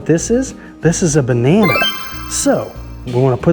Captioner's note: chimes ringing